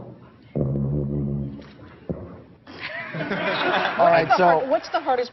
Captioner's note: laughter